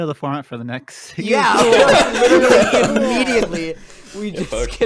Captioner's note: everyone laughs